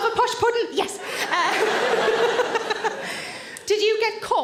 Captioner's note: all laugh